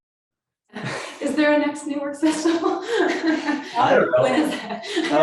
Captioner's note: laughing